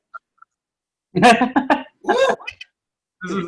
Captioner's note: one Audience Member Laughs + One Audience Member Woos